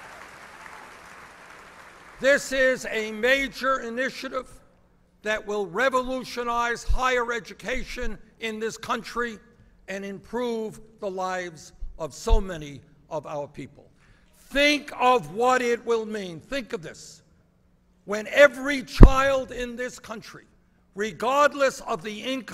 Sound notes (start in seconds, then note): 0.0 applause